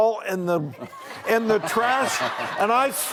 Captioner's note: crowd laughs